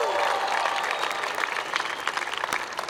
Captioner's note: applause